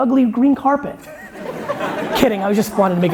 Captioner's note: laughing